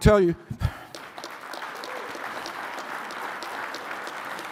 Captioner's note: audience applauding